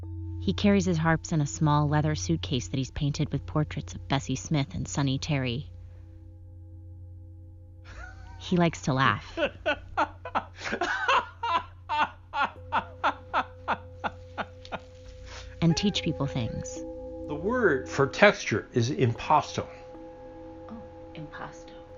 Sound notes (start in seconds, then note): 9.2 laughing